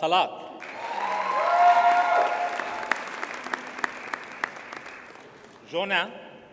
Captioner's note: audience cheers and applauds